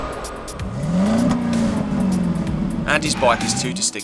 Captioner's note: wind whooshing; engine roaring